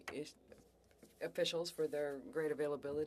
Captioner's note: speaking French